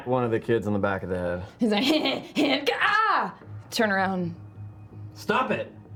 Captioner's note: sneering